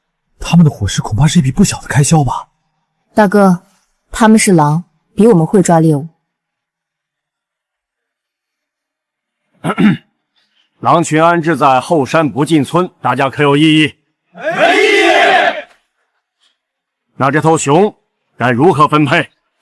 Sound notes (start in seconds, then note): 9.6 cough, cough